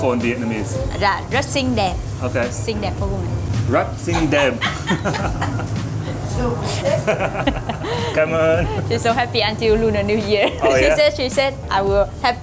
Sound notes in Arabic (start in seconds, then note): 6.5 تضحك